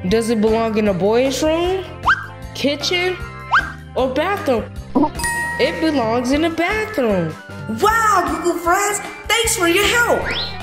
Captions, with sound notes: Does it belong in the boy's room? Kitchen? Or bathroom? (bell dings) It belongs in the bathroom. Wow, Goo Goo friends, thanks for your help.